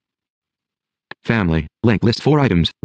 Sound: computer Generated Voice

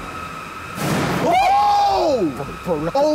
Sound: all cheering

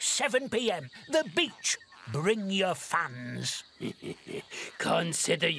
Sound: laugh wickedly

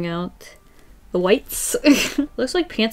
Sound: laughs

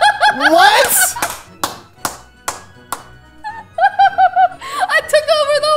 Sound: laughs

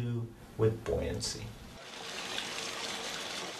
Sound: running water

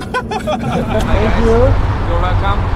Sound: laughes

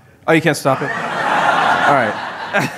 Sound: laughter

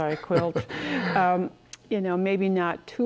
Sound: chuckles

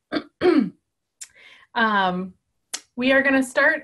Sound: clearing voice

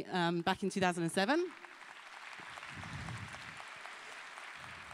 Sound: applause

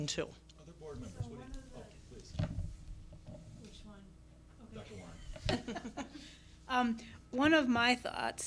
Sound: laughter

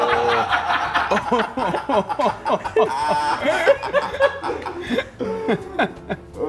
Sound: laugh

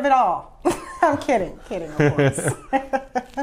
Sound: laughs

